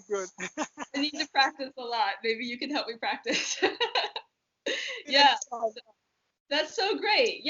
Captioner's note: laughter